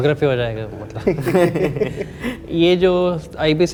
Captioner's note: chuckles